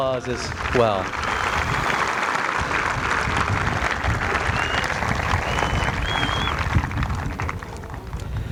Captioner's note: applause